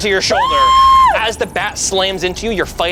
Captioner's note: squeals